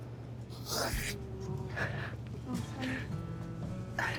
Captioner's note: crying